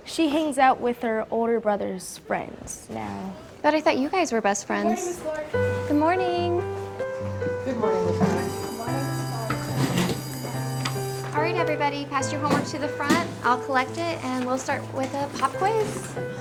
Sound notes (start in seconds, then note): 8.0 school bell rings